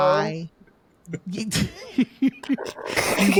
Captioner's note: laughing